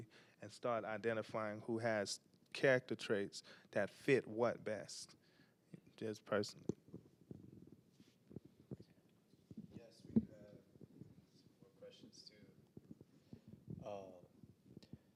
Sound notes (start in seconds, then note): 9.8 quietly